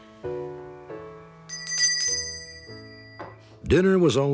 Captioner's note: bell ringing